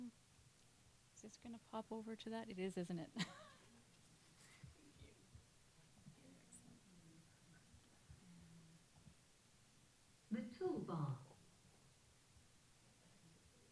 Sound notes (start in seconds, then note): 10.5 voiceover